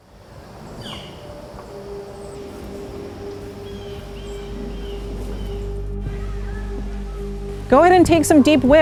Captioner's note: bird calls